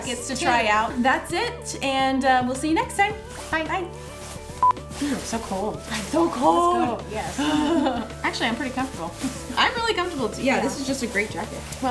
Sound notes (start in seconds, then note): 4.6 beeps; 7.4 chuckling